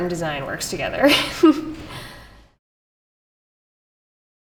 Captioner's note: chuckles